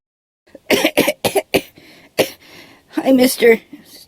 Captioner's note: coughs